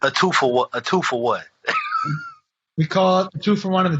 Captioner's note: laughs